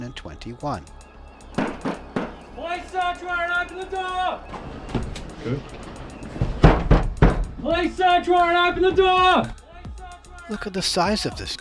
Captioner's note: banging